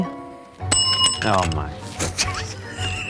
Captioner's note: bell rings; laughs